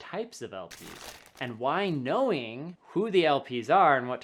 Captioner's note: paper rubbing